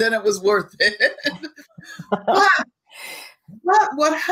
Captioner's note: laughing